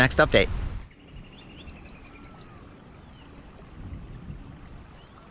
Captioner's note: birds singing